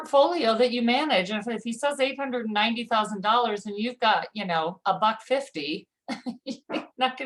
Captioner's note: chuckle